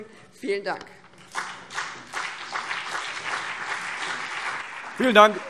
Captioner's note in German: Beifall BÜNDNIS 90/DIE GRÜNEN und CDU